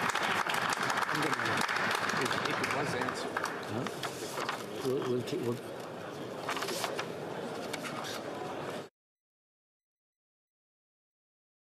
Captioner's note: applause